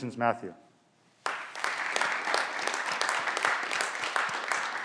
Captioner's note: clapping